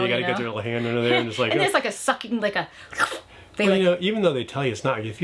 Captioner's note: slurping